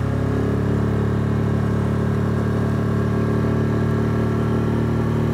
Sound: boat motor roaring

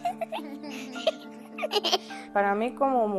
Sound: giggling

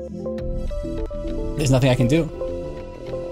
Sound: computer repeatedly chiming

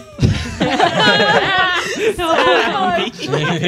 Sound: laughter

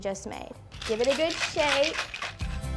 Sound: ice cubes rattling; upbeat music

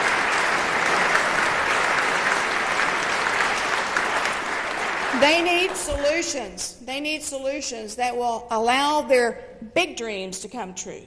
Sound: applause

